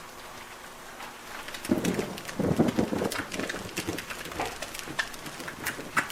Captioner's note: thunder cracks